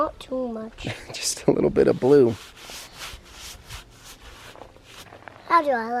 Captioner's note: laughs